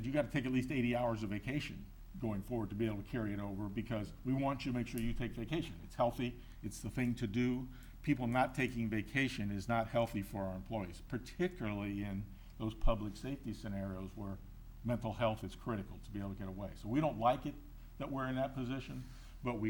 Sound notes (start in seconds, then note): none